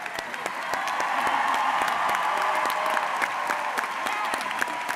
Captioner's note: audience cheers